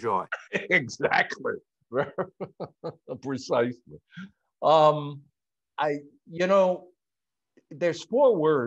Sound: laughs

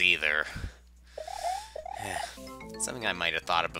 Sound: breathing

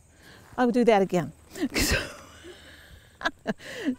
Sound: laughter

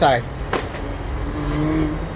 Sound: vacuum sounding angry

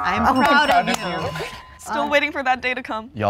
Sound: claps

